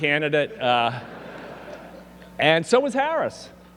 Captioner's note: audience laughing